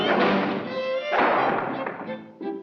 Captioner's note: Bugs and Elmer whooshing; dramatic music continues; door slams; gentle music